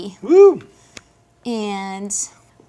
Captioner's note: cheers